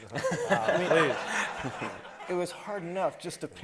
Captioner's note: everybody laughing